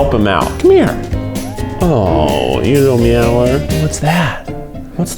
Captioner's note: cat meowing; gentle music